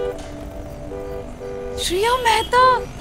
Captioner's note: Horn beeping